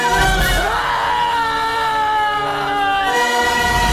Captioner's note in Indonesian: berteriak